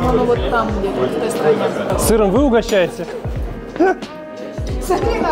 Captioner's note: laughing